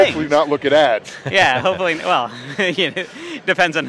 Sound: laughs

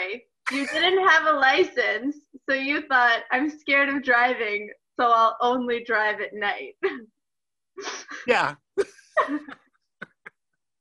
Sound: laughing

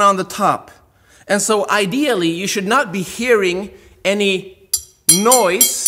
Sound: metal clanks

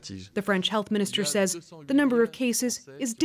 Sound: speaking French

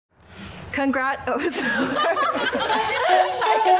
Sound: laughter

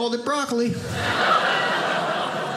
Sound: audience laughing

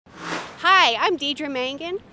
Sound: sound Effects

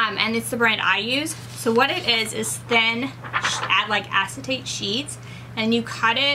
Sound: film crinkles

